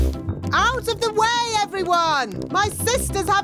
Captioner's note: none